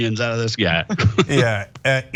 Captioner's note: laugh